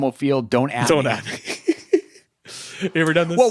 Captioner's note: laughing